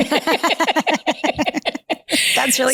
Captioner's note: both laughing